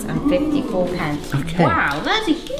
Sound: crowd ohing

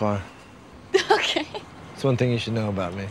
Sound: laughing

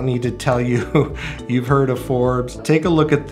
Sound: chuckles

